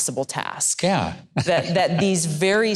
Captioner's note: chuckles